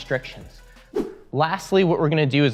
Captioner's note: air whooshing